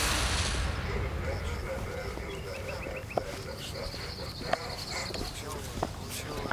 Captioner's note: birds chirping